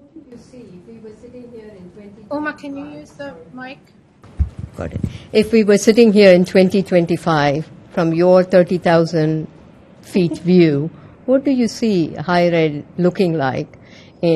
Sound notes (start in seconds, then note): 2.3 voiceover